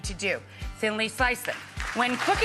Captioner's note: clapping